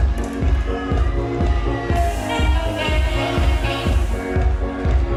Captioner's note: crowd cheering